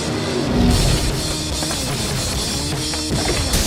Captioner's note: gun chirps